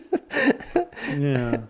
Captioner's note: laughing